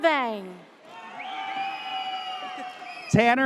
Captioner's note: audience cheers